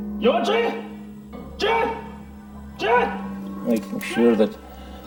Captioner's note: speaking in foreign language